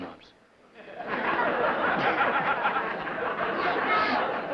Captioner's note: laughter